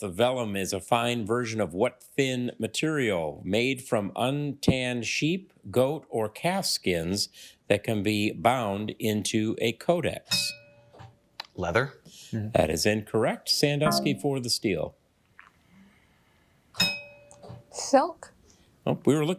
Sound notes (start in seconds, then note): 10.3 bell dings; 16.8 bell dings